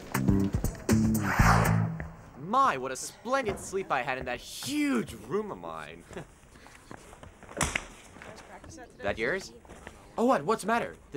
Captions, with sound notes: - My, what a splendid sleep I had in that huge room of mine. (hands slapping) That yours? Oh, what? What's the matter?